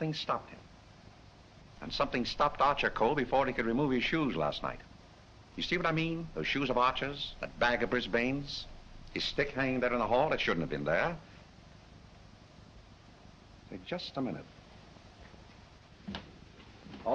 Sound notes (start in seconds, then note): none